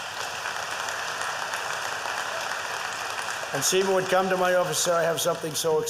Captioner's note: applause